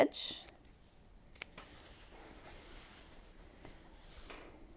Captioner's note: scissors clip